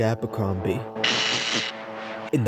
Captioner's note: zapping